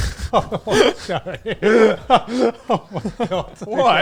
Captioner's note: everyone laughs